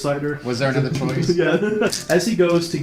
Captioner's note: laughs